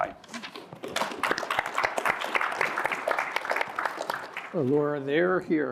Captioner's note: applause